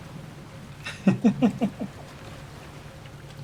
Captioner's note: chuckles